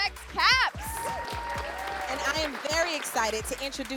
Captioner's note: cheering